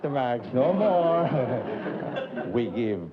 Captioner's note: chuckles